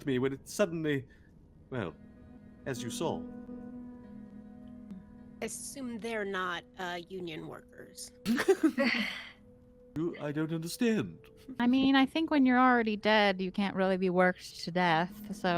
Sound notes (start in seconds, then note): 8.2 Cornette laughs; 8.2 Calla laughs